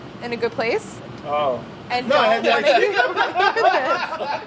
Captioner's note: laughter